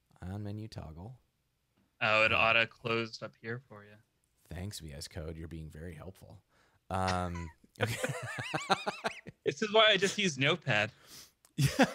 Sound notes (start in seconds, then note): 7.8 both laughing; 11.6 laughing